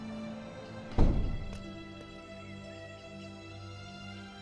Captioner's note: door closing; soft dramatic music